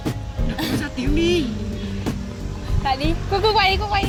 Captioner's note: laughs